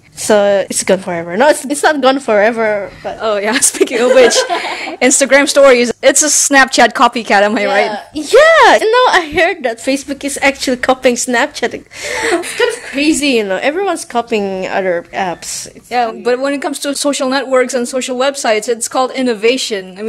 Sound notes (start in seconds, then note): 3.8 laughs